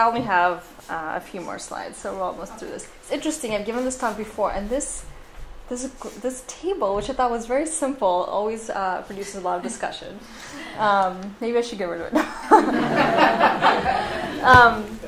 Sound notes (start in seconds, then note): 12.2 laughs